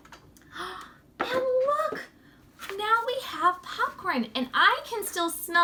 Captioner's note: gasps